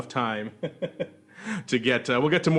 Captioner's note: laughing